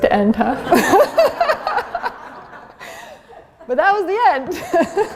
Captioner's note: laughter